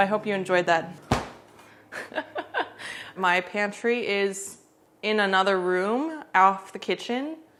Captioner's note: laughs